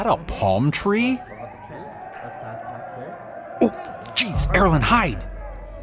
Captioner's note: voices approaching